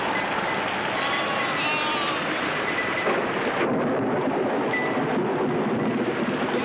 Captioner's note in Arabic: صوت الرعد; صوت عويل الرياح